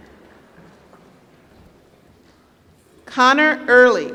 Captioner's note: applause